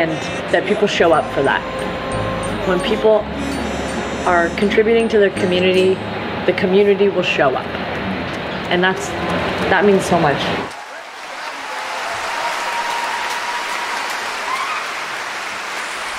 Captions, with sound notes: and that people show up for that. When people are contributing to the community, the community will show up. And that's, that means so much (clapping/cheering)